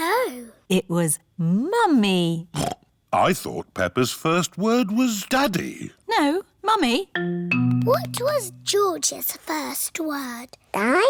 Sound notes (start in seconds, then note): 2.8 snorts